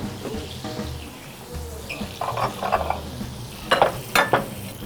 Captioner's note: steak sizzles